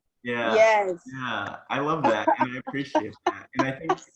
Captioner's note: both laughing